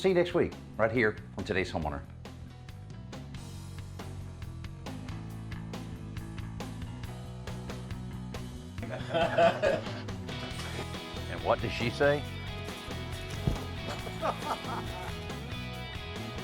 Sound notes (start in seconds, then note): 8.8 laughs; 13.8 crew laughing